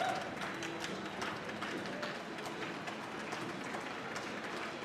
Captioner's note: audience applauds